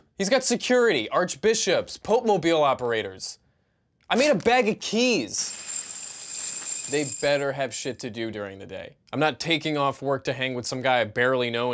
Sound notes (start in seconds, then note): 5.4 keys clanging on tile